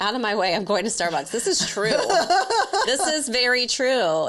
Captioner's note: laughs